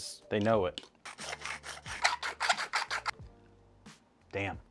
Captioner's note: sound of grinding pepper and salt